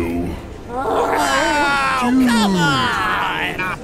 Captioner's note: groans and sighs from the crowd